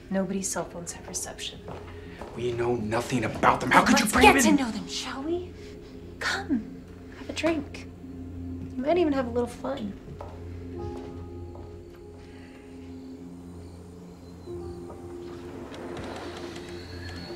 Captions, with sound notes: Nobody's cell phones have reception. - We know nothing about them! How could you bring them-- - Let's get to know them shall we? Come. Have a drink. You might even have a little fun. (gentle music) (crickets chirping)